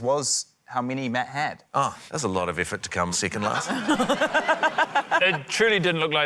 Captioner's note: laughter